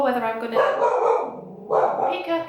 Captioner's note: my dog barking